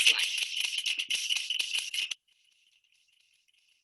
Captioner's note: typing